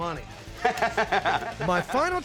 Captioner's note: chuckling